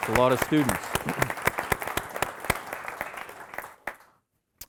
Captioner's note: audience applauding